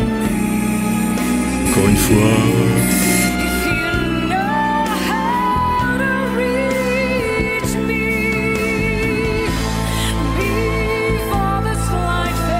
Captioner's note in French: voix soufflée